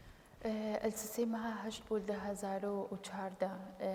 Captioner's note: speaking kurdish